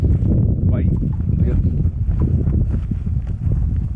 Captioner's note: wind blowing